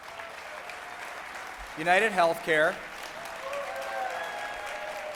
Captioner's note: applause